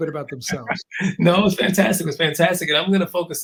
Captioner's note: laugh